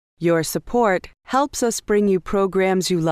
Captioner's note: voiceover